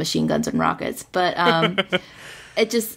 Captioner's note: laughs